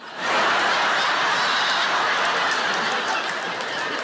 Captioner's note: audience laughs